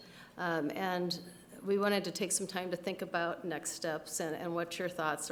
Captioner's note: none